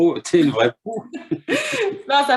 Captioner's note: laughter